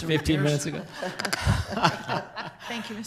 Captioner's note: everyone laughs